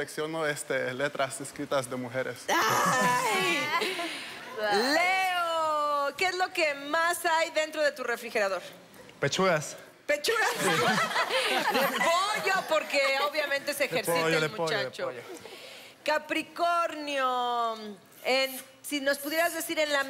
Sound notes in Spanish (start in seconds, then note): 3.9 Exclamaciones; 10.4 Risas